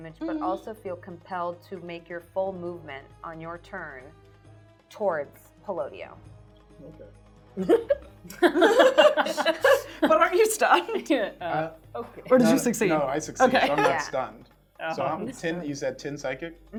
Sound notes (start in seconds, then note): 8.3 laughing